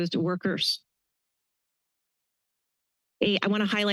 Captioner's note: pause